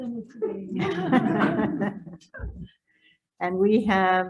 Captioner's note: audience laughing